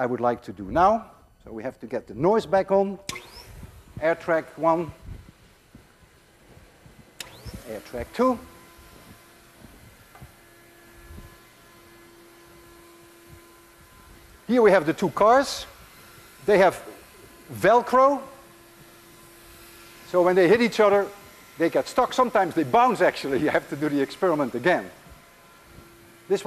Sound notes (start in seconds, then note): 6.2 air track humming